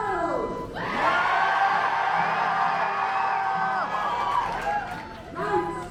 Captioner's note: cheers